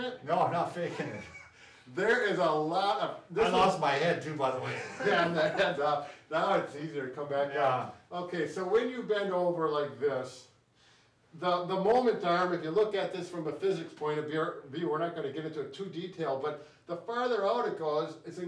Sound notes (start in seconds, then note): 4.6 laughs